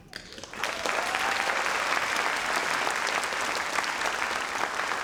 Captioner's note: audience applauds